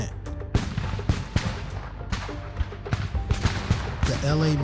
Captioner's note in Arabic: تشقق إطلاق نار